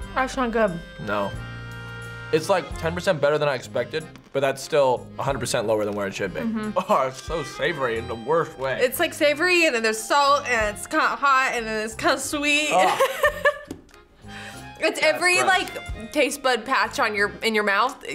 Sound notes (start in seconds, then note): 12.6 laughs